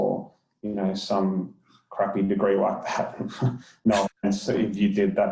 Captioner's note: laughs